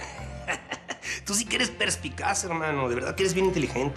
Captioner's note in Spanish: risas